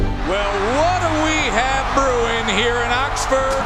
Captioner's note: voiceover